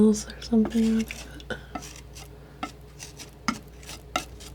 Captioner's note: scratching